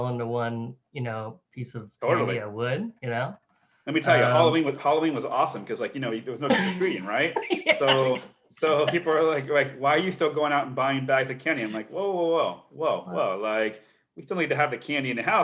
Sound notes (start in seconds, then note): 6.4 laughs